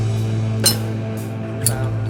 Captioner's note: lighter clinking